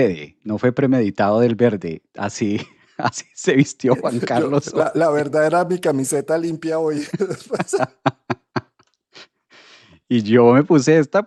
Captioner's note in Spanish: risas